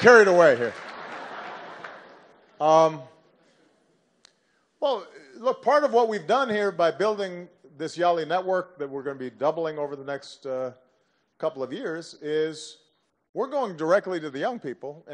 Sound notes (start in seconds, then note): 0.7 laughter